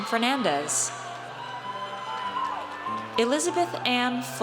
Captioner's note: audience cheers